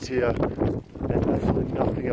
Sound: wind whipping

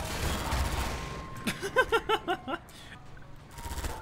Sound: laughing

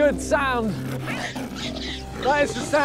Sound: snarling and screeching

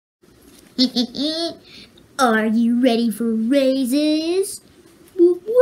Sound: Hi-5 laughing

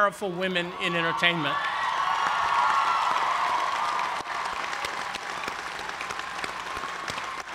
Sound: cheers and applause

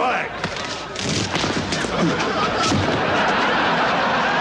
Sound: audience laughs

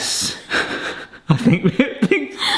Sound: laughs

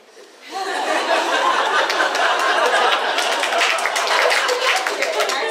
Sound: audience laughs and applauds

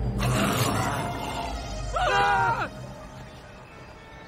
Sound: screaming

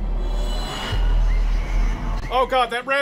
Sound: rabbit scream

